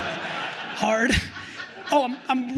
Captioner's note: crowd laughing